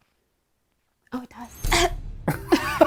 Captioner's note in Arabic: يسعل; يضحك إيفان